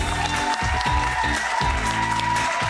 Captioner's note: audience cheers; funky music